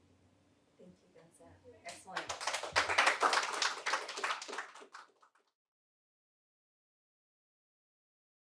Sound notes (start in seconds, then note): 2.1 audience applauding